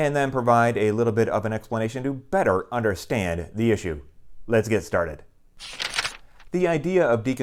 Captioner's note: page turning